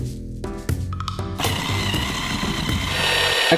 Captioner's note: mellow melodic music; whisk whirring